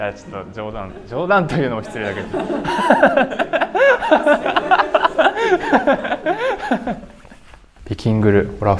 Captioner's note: laughs